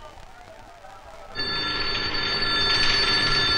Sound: alarms Wailing

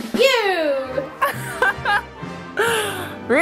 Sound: drum rolls; ceremonious music; laughs

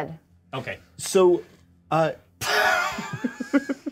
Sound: co-hosts laughing

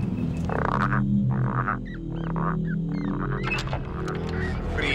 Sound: frogs croaking

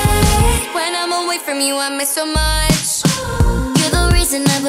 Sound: ooh

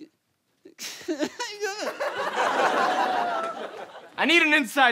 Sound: cries

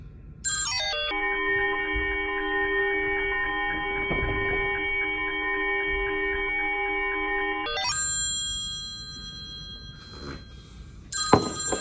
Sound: phone rings

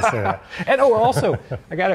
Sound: laughing

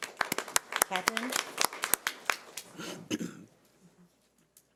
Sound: audience applauding

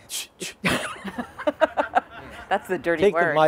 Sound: laughing

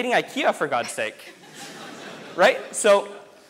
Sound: audience laughs

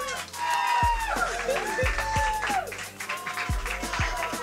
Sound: shouting continues; cheering and applause

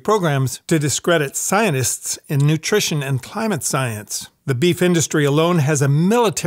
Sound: none

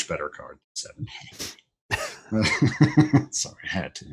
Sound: laughter

